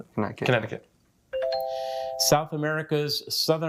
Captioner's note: bell dings